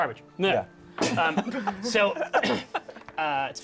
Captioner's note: laughter